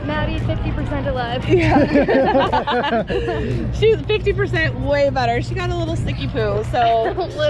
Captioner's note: laughter